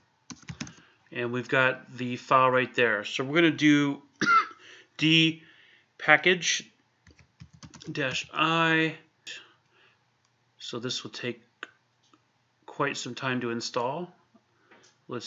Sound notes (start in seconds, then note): 4.2 clears throat